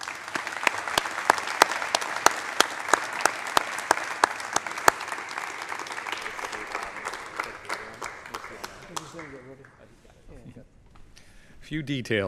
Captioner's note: applause